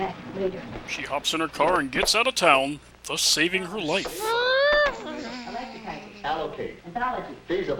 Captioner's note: distant car peeling out noises